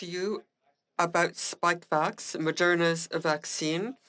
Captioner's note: speaking French